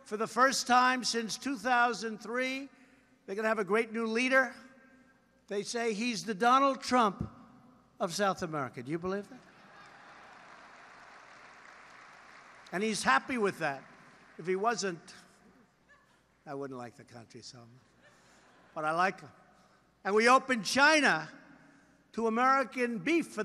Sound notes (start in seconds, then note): 9.4 applause